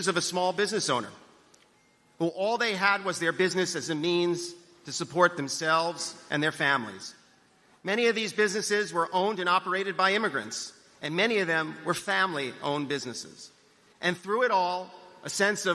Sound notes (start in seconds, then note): none